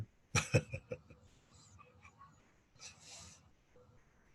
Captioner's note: laughter